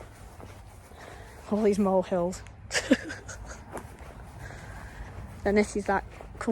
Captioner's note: laughs